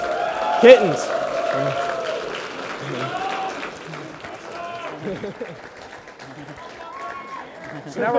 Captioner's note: applause